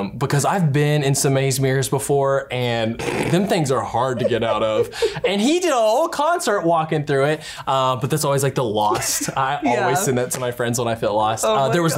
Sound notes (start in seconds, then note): 3.0 laughs